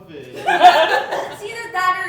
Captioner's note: audience Laughing